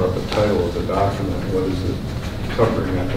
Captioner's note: rustling drowns out speaker